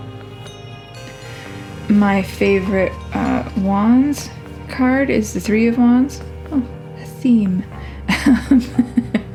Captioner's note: laugh